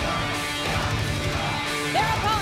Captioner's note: fans chanting; cheers & applause